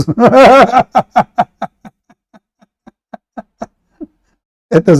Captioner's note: Ketawa